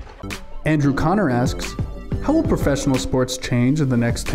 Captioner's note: voiceover